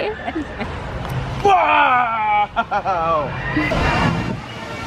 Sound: playfully giggles

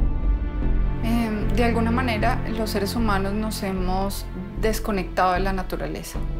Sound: speaking in foreign language

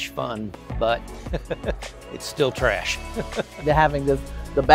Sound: chuckling

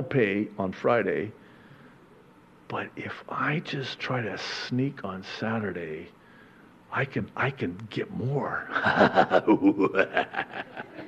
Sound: evil laugh

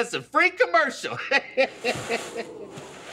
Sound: laughing

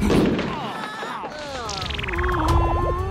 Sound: groaning

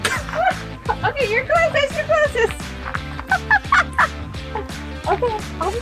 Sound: laughs

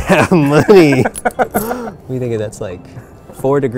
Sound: laughing

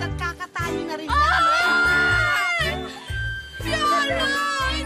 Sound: wailing

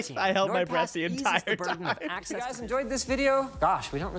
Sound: laughter

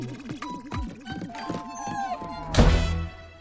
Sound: whimpers

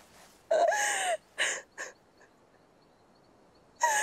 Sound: cries

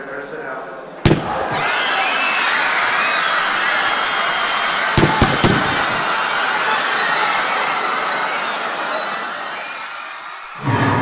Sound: gun shooting and people screaming

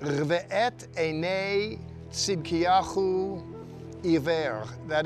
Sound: speaking in Hebrew

